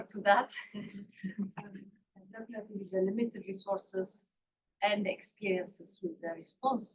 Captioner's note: laughs